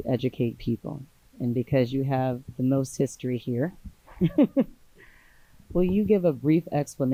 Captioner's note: laughs